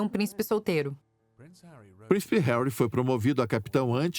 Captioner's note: voiceover